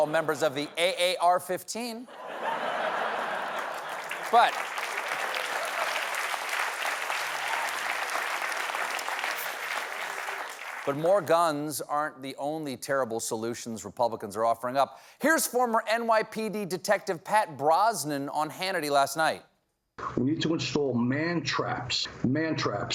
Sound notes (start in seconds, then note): 5.6 applause